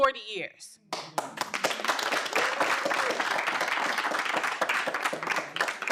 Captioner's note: audience applauding